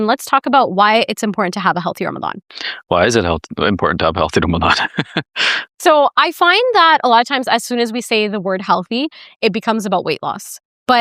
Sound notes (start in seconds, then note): 5.1 laughs